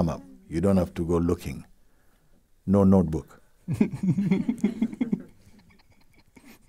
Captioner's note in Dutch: gelach